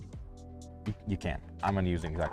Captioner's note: stutter